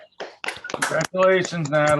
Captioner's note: applause